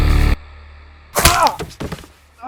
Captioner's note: leg snapping